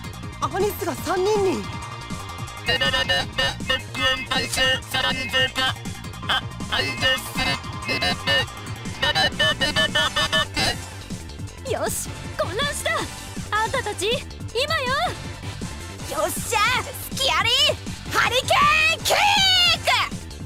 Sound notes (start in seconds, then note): 2.6 very frantic beep boop; 7.3 frantic computing